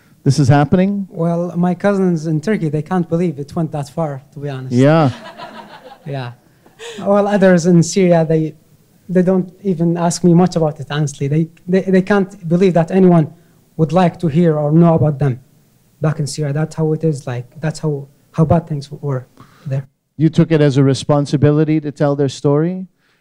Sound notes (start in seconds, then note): 5.0 laughter